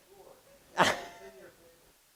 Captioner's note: laughter